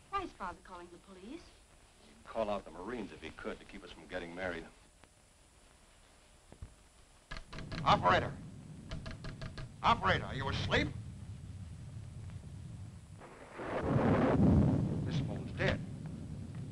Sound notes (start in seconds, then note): 8.9 lever clicking; 11.3 rain pattering; 11.3 thunder rumbling